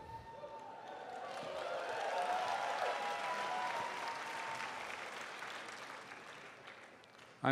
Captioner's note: applause, cheers